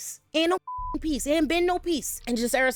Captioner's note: beep